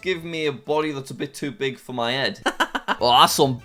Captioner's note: laughs